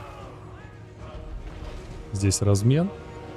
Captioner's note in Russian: крик